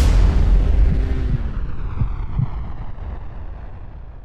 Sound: heart beat

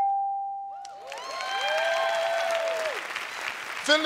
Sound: cheers and applause

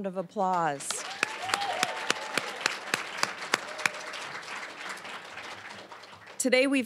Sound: applause, cheering

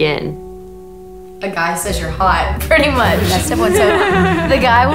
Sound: laughing

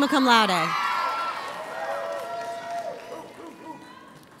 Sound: audience cheers

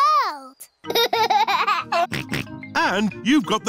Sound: laughs and snorts

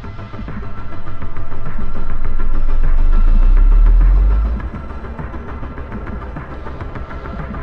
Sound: unsettling music; machine whirring

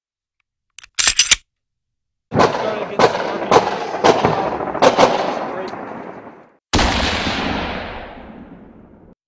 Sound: military and Gun SFX

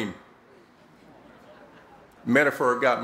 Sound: laughter

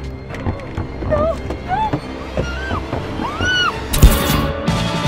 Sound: screams; slashing sound

